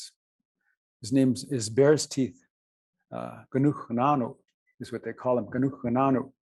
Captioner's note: non-english